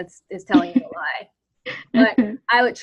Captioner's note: laughs